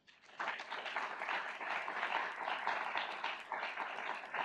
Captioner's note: audience applauds